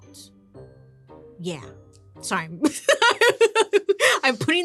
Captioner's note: laughing